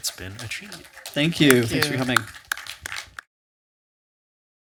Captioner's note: applause